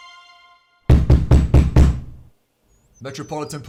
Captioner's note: fist pounding